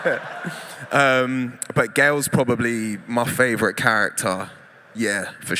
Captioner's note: laughter